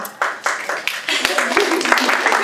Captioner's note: applause